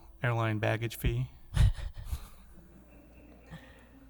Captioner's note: laughter